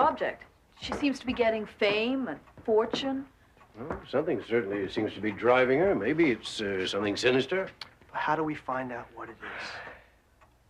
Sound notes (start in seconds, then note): none